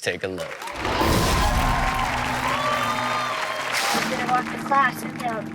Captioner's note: audience cheers